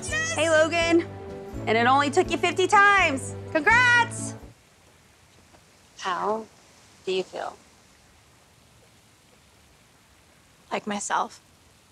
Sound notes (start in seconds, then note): none